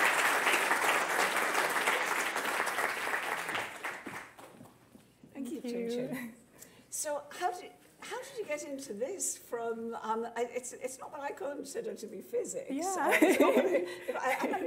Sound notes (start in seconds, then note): 3.5 applause